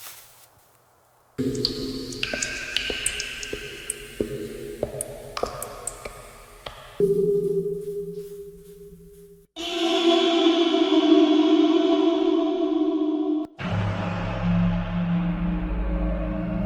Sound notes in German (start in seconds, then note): 0.0 Grasland-Umgebungsklang; 2.9 Höhlengeräusch